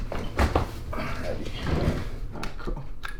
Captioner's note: chair squeaking; sighing